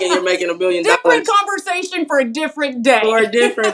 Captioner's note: laugh